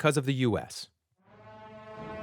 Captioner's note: soundbite of archived recording